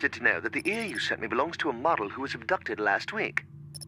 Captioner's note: phone ringing